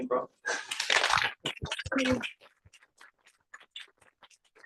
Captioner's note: applause